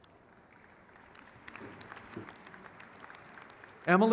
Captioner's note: crowd cheers